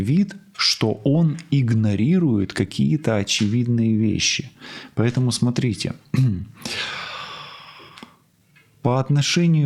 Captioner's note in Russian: откашливается; вздыхает